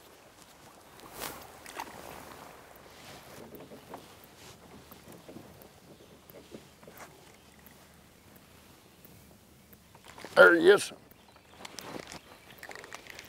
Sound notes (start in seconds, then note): 1.0 splashing; 5.5 nature sounds